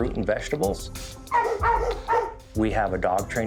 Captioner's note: dogs barking